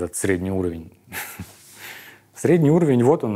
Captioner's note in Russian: усмехается